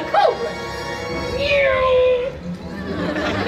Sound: Mary makes an airplane noise

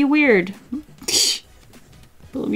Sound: short laugh

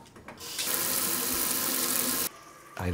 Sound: sound of water running

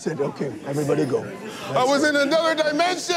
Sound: students chattering

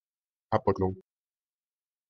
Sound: fast Pronunciation

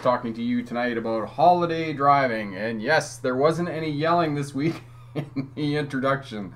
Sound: laughing

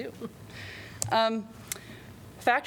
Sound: laughter

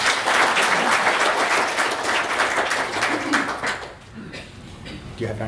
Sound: applause

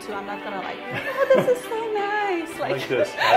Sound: woman laughs; man laughs

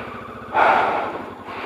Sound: sigh

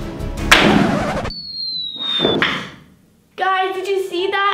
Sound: dramatic music; banging

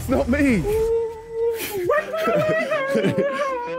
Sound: ghost noises

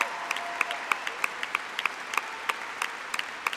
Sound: applause

